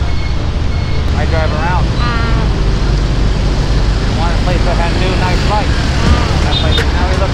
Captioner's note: conversation